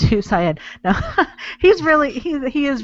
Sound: laughs

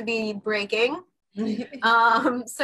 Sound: laughs

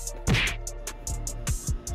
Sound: thud

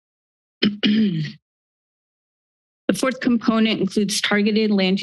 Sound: clears Throat

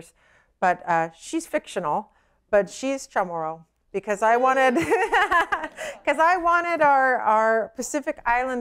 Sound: laughter

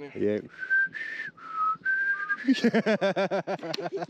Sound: both whistle

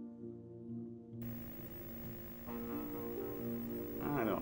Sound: CCTV Static

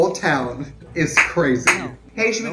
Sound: hands clap

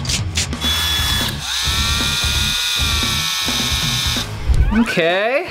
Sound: machine wheezing

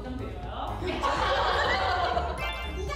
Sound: haha

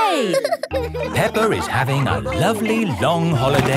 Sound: all laughing

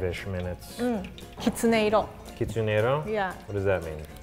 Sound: both speak in foreign language

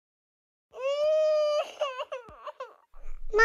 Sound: crying

